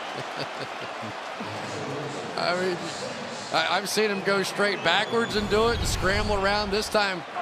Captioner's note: laughs